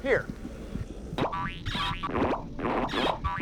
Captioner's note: boing, boing!